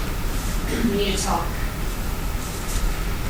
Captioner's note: soft footsteps approaching